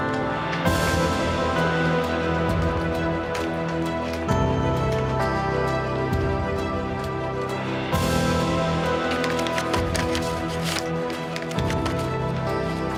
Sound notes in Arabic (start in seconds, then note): 8.8 صوت الورق